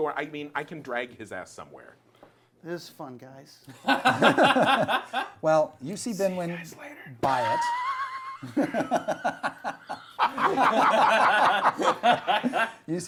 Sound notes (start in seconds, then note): 3.7 laughter